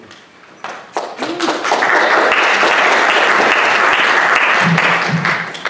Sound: audience applauding

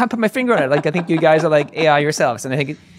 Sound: laughing

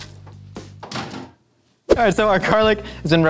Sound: oven door shuts

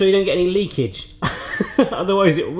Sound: laughs

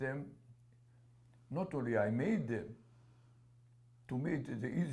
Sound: none

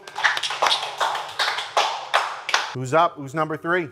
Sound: contestants clapping

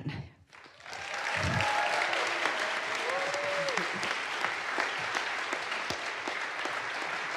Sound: audience applauds; audience cheers

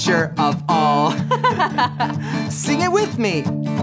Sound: laughing

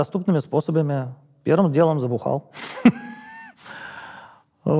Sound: laughs

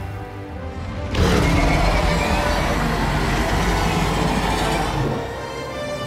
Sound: roaring

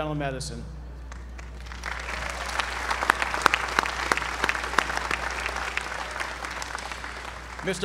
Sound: applause

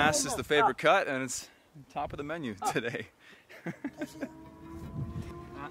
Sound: laughs

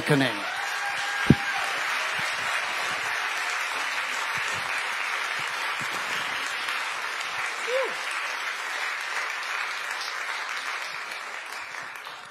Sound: applause and cheers

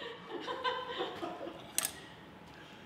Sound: laughter

